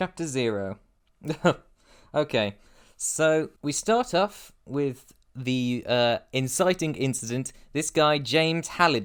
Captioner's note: scoff